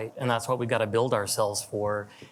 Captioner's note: none